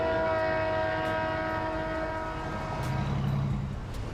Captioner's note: horns honking